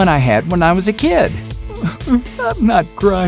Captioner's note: sobbing